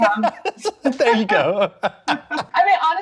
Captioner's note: laughs; laughter